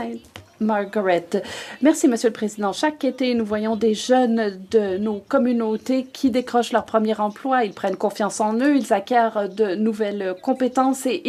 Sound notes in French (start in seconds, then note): 5.4 voix de l'interprète